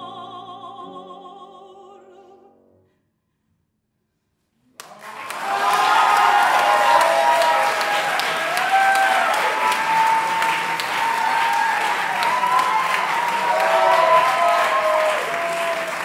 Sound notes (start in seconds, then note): 4.8 audience applauding; 4.8 audience cheering